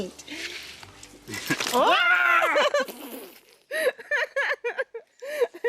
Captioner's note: shrieks and laughter